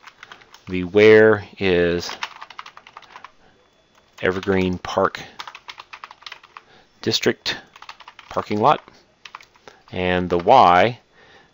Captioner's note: typing